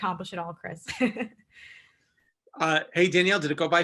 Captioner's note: chuckles